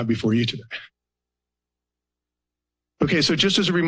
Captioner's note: pause